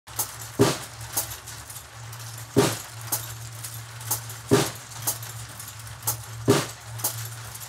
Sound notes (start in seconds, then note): 0.8 marbles rolling; 2.4 drum beat